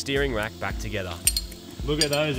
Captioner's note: clatters